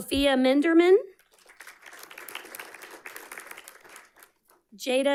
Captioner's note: audience clapping